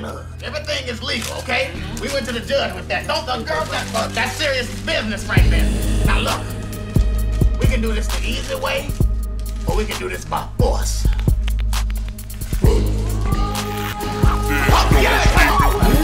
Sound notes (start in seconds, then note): 11.0 knuckles cracking